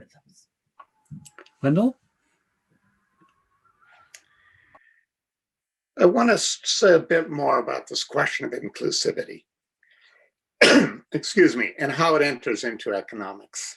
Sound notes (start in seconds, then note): 10.6 coughs